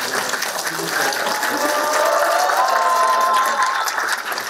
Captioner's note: applause